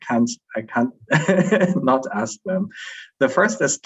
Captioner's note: chuckles